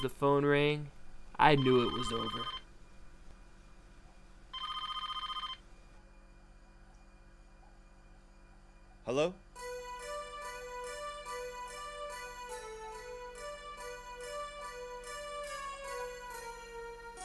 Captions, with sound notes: But as soon as the phone rang, I knew it was over. (telephone ringing) - Hello? (mysterious music)